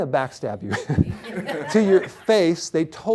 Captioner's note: laughter